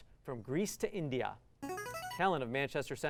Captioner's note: buzzer